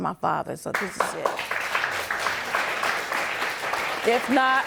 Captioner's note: audience applauding